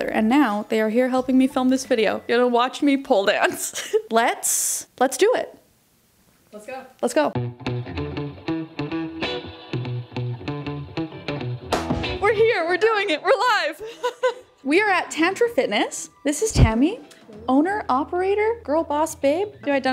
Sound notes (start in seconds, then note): 3.4 laughing; 7.4 funky upbeat music; 13.6 laughing